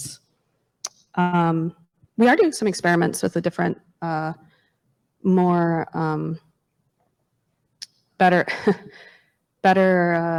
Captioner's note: chuckles